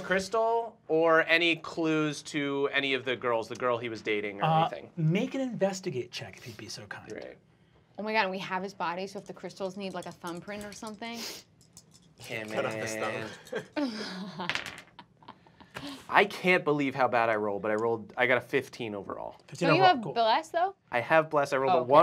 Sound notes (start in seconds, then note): 12.6 laughing